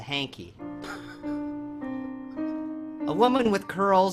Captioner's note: Bill sobbing